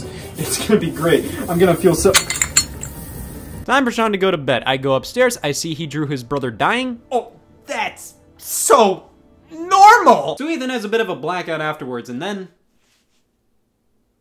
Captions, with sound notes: It's gonna be great. I'm gonna feel so- (glass breaks) Time for Sean to go to bed. I go upstairs. I see he drew his brother dying. Oh, that's so normal! So Ethan has a bit of a blackout afterwards. And then...